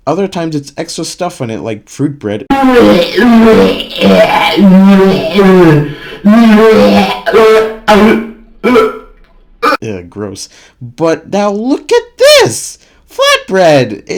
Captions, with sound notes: Other times it's extra stuff on it like fruit bread. [VOMITING] Eugh, gross. But now look at this! Flatbread!